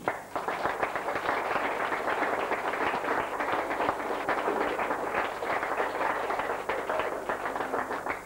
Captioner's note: audience applause